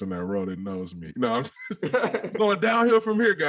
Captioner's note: all laugh